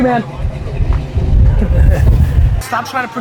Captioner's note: laughs